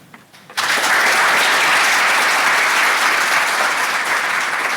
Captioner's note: applause